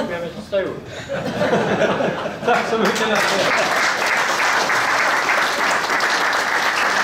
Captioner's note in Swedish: Skratt; Applåder